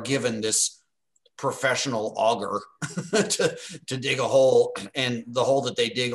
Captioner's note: laugh